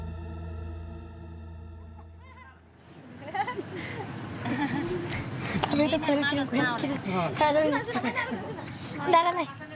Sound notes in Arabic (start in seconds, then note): 3.1 الناس يضحكون